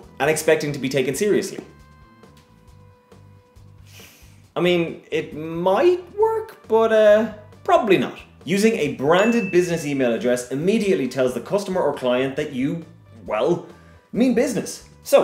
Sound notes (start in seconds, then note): 3.8 sigh; 9.0 ding